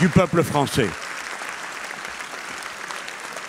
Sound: applauds

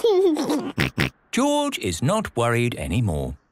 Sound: giggles

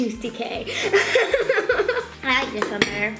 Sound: giggles

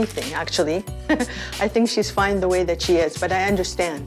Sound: laugh

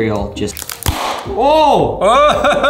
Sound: shoe snapping

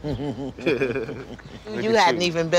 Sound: both laugh

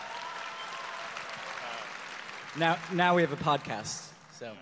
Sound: audience applause

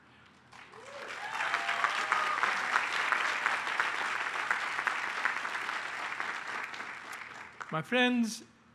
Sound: applause

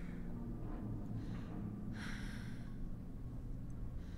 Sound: breathing heavily

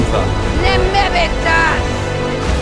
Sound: speaking Old Valyrian?

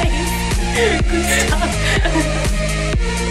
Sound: bright upbeat music; both laughing; chuckles

